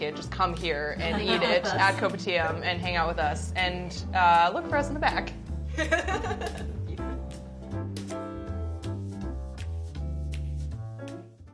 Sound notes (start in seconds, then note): 5.7 laughter; 7.2 jazz music